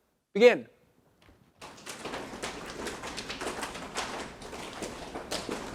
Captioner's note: audience slapping legs